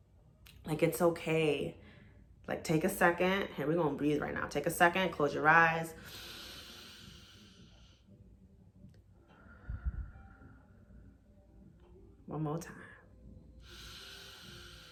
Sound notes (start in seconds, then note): 9.5 inhales; 11.5 breathes